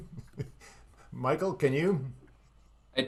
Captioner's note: laughs